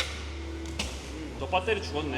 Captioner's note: tick